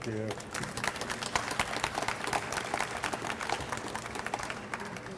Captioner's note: audience applauds